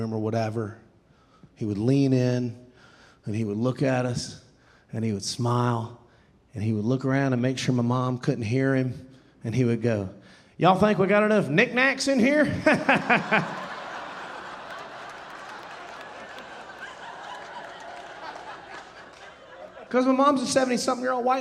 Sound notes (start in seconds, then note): 12.4 laughing; 12.4 audience laughing